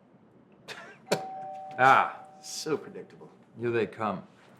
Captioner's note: doorbell ringing